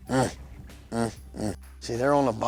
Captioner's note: grunts